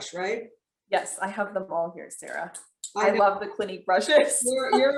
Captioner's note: chuckles